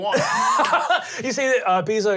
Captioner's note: laughing